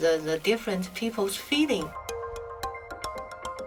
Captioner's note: voiceover